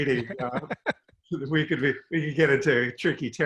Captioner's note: giggling